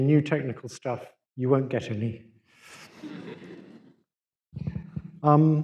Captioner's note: laughter